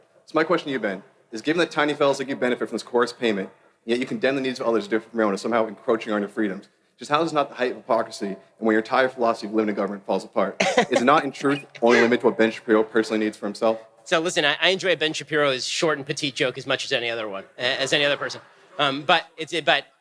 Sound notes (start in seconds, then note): 10.6 laughter